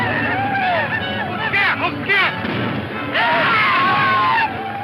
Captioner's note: speaks in foreign language